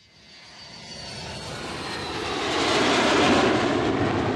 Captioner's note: plane engine running